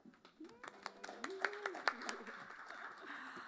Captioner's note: applause